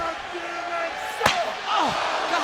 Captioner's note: Terry yelling